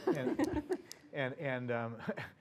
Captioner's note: laugh